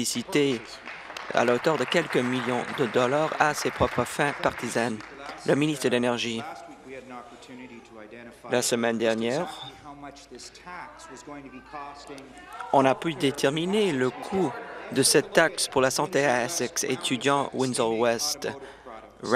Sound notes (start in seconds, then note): 4.9 applause